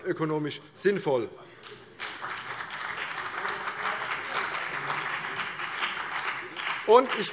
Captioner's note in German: Beifall CDU und BÜNDNIS 90/DIE GRÜNEN